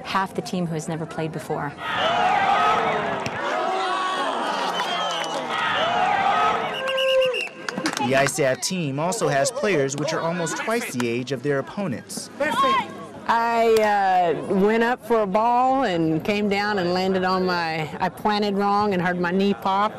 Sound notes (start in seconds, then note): 1.8 crowd cheering; 3.6 whistle blowing